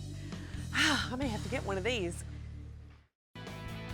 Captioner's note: sighs